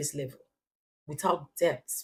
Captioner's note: paause